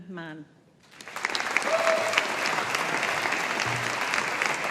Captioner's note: audience applauding